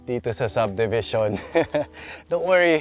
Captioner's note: chuckles